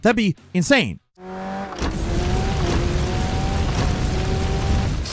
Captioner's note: tires screeching